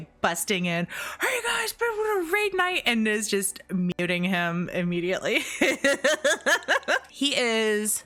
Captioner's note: heh heh heh heh heh